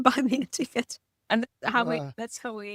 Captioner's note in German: lacht